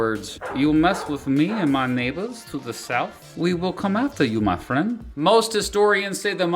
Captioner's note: in Scarface voice